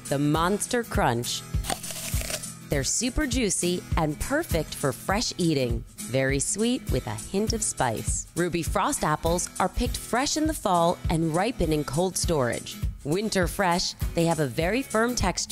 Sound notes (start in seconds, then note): 1.6 apple crunches